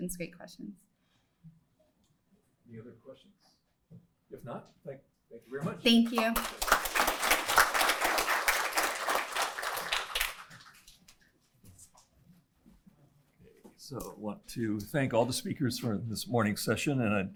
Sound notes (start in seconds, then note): 5.9 applause